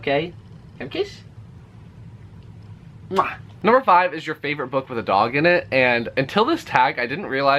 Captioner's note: kiss noise